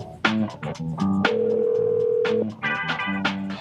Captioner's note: phone ringing